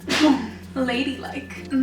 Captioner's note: coughs